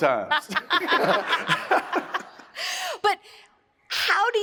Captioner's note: audience laughs